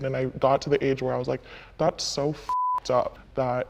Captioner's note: beep